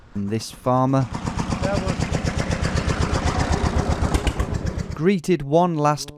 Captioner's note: tractor engine roaring